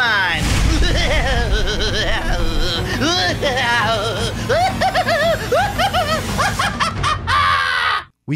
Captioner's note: diabolical laughter